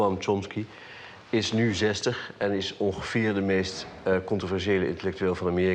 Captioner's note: speaking in foreign language